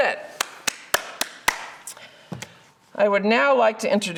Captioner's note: claps